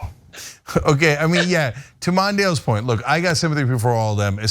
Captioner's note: laugh